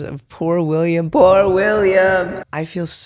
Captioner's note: echoing